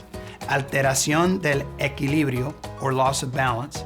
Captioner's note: speaking in Spanish